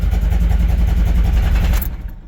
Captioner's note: engine idling rough; engine rattling